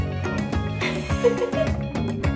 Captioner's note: laughter